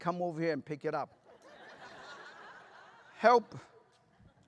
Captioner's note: laughter